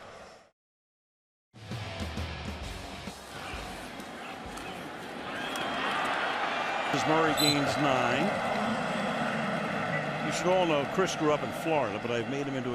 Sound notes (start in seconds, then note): 6.3 cheering; 9.2 pa announcement